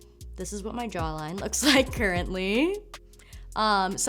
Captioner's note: chuckles